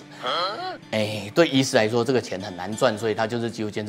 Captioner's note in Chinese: 哭哭